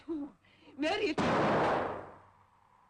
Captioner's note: gunshot